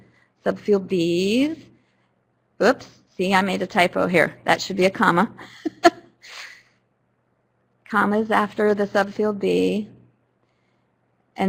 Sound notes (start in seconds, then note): 5.4 laughter